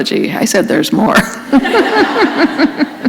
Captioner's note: laughter